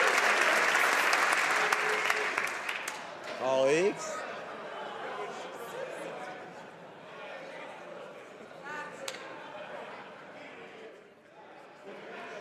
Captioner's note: some Applause